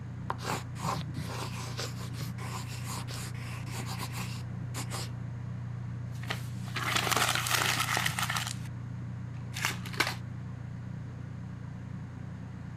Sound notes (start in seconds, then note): 0.3 pencil scritching; 6.2 paper tear and crumpling